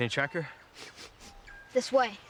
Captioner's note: sniffs